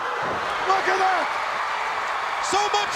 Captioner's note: crowd cheering